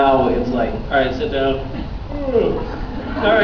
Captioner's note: laughs; yawns